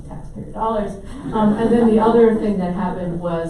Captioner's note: audience laughs